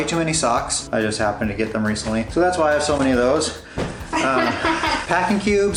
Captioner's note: laughter